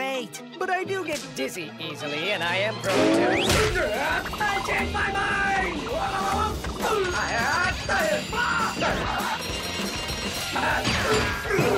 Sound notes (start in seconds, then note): 8.6 bells sound as dark vegan racks up points